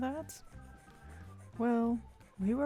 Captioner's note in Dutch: aggressief tablet gekras in de achtergrond